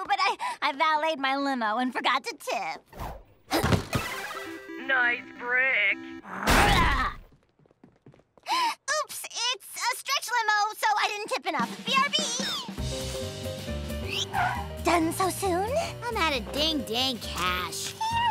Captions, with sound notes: but I valeted my limo and forgot to tip. Nice brick! [growls] [gasps] Oops, it's a stretch limo, so I didn't tip enough. B-R-B! Done so soon? I'm outta ding-dang cash.